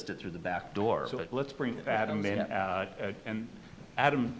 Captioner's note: overlapping chatter